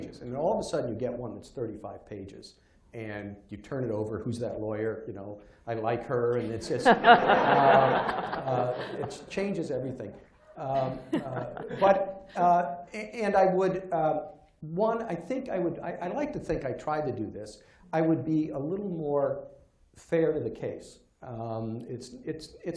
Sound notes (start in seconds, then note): 6.4 laughter